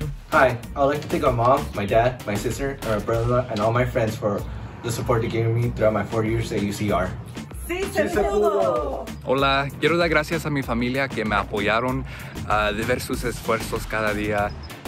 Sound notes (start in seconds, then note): 7.7 family speaks in foreign language; 9.3 speaks in foreign language